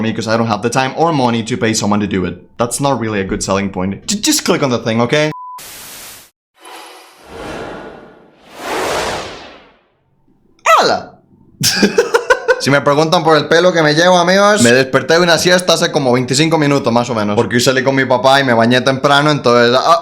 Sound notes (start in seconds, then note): 11.6 intro laugh